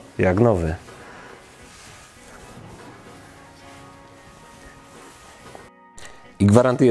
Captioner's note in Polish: dźwięki przecierania